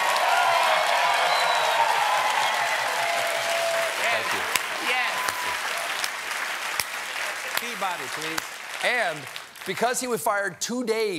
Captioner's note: cheers and applause